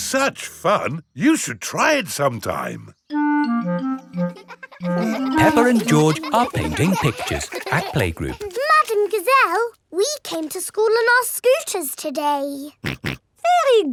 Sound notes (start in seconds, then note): 4.3 children laughing; 13.4 snorts